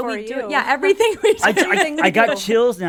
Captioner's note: laughing